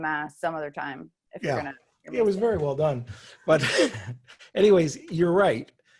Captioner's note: chuckles